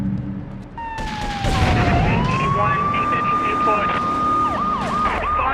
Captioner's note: siren wailing